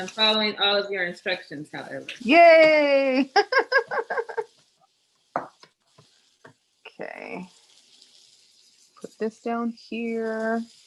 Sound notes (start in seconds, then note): 3.1 laughs